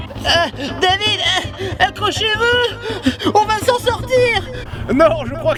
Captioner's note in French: Essoufflé